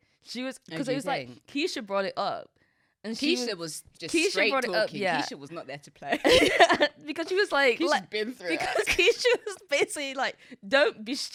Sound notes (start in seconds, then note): 6.2 both laughing; 8.6 both laughing